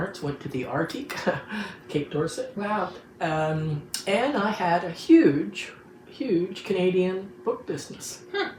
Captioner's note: chuckles